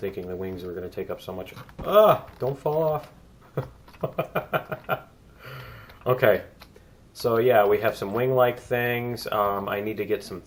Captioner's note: laughs